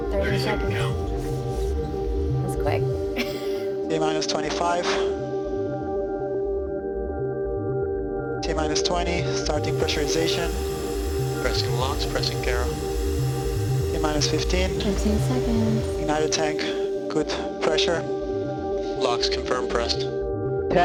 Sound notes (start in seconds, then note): 11.8 radio chatter